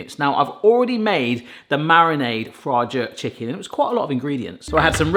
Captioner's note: none